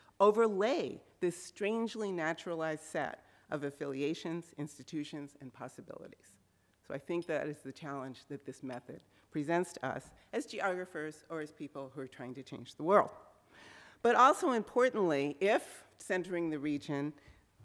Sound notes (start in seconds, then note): none